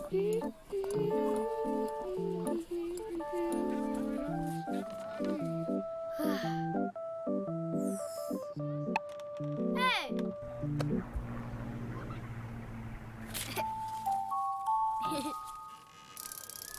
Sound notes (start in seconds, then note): 6.1 child sighing; 8.8 bubble gum popping; 10.3 airplane rumbling; 14.9 child giggling